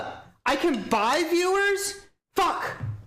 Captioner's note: incredulous